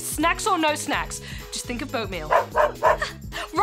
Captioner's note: dog barks